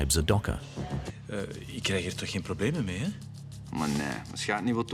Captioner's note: Dutch spoken audio